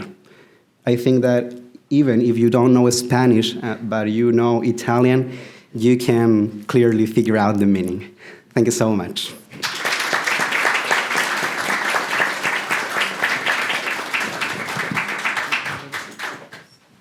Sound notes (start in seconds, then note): 9.9 applause